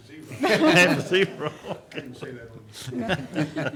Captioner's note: group laughing